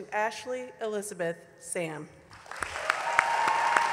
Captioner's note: applause